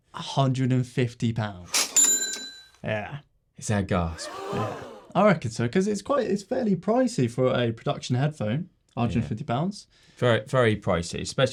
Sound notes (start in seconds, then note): 1.7 cash register rings; 4.1 crowd gasping